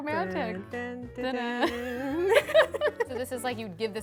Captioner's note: humming